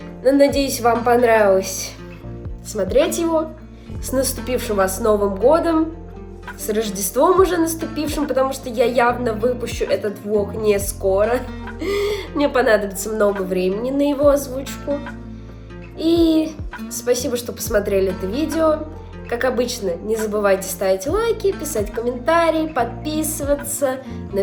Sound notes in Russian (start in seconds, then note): 11.8 вздох